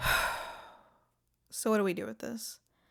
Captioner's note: petulant sigh